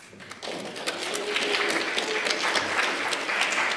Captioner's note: applause